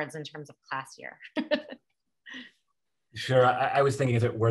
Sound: laugh

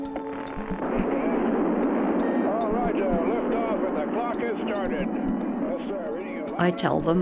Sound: nat Sound: Roar of rocket "Roger! Lift off for the clock has started!"

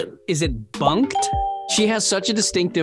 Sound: bell rings

